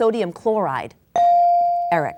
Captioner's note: bell dinging